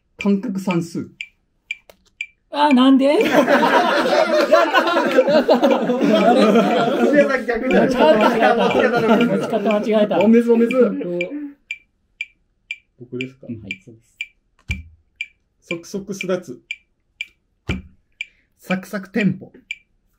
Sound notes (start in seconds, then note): 3.0 laughing